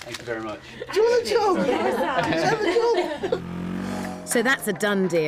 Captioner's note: laughter and chatting